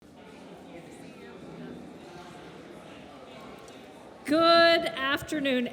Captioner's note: people chattering